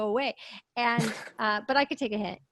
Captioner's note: laughs